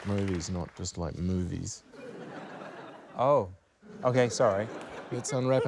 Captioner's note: laughter